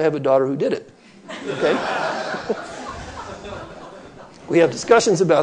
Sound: audience laughter

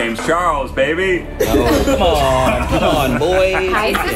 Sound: laughing

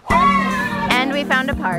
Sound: kids yelling; happy music

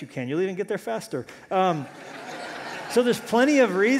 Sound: laughter

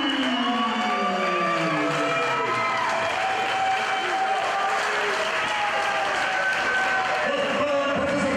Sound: applause

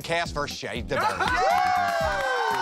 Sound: cheers and applause; laughter

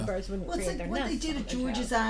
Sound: voiceover

